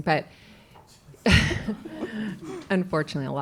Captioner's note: laughter